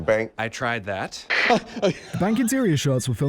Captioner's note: truly raucous laughter